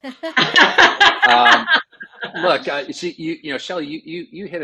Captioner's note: laughing